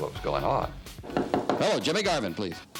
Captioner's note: knuckles rapping